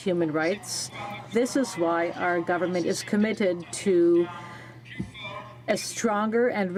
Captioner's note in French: voix de l'interprte